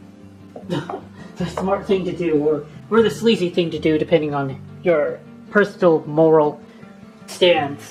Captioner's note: chuckling